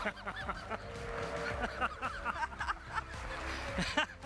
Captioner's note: people laughing